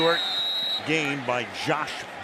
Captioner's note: whistle